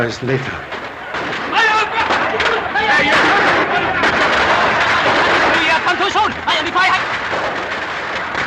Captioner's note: explains in Chinese